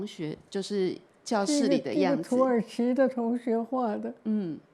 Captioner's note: Mandarin; Mandarin